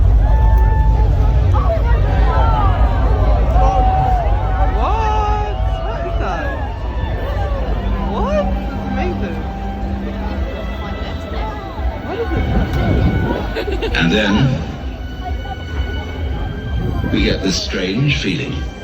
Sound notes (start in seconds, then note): 0.0 cheering; 4.2 group voices; 13.8 male voice on speaker; 15.7 distant music